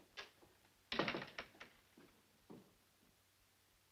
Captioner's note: door thuds